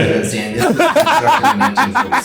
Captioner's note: laughing